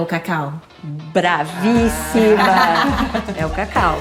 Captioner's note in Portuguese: risos